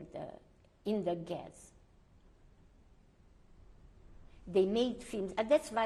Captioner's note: pauses for 3 seconds